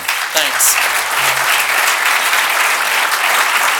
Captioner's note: applause